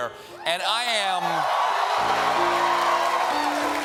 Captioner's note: applause